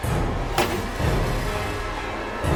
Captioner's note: wall bash